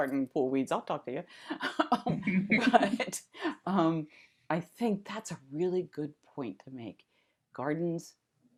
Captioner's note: laughter